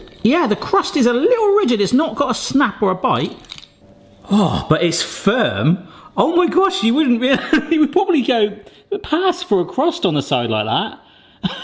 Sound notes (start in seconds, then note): 7.6 laughs; 11.4 laughs